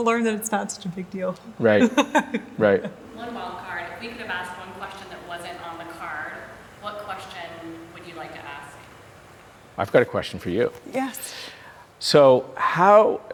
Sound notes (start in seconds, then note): 1.6 chuckling